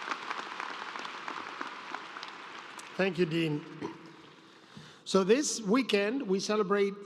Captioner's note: applause